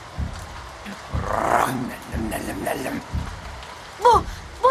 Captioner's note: snarls